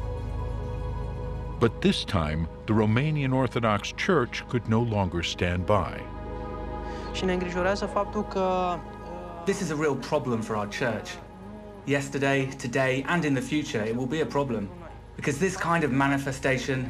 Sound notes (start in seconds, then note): 7.0 man speaking Romanian